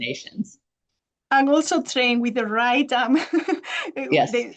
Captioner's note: chuckles